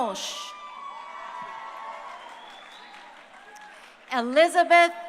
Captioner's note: crowd cheering